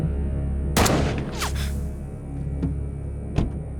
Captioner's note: gun booming